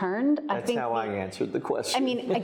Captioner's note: laughs